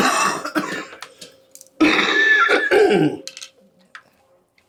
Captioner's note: coughing